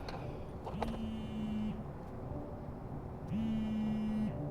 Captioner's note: phone buzzes